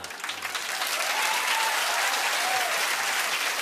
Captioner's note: cheers and applause